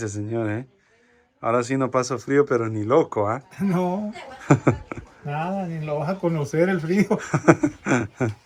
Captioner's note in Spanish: risas